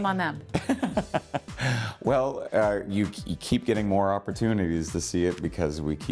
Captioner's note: laughing